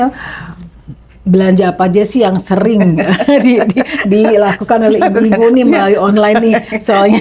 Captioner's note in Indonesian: tertawa